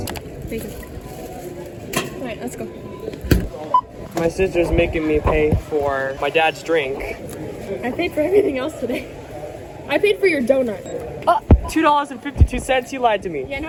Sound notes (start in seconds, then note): 7.9 laughs